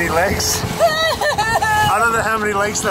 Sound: cries

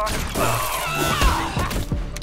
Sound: Setelva yells

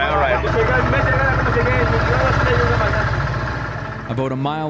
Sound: boat engine idling

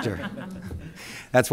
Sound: laughter

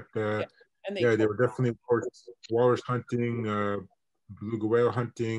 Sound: internet distortion

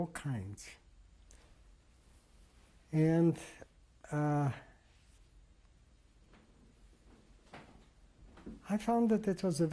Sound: pauses for 3 seconds

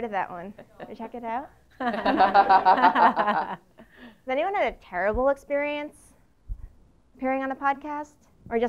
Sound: laugh

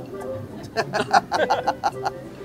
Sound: both laugh

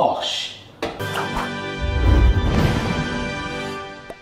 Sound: logo popping

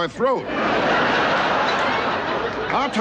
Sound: audience laughing

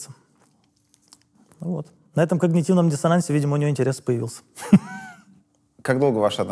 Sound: chuckles

